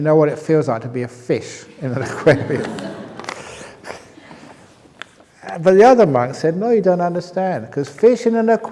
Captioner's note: laughter